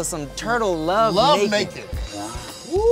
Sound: cheering

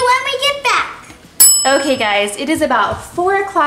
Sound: timer dings

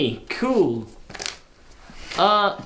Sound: paper flap

